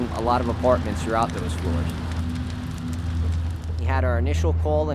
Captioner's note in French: le feu crépite